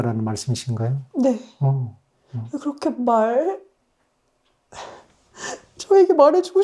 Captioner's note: sobbing